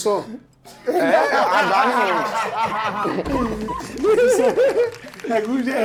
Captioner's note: everyone laughs